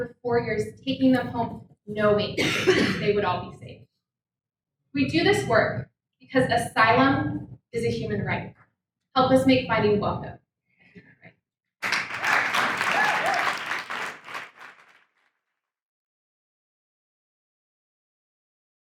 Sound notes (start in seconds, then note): 11.8 audience cheers; 11.8 audience applauds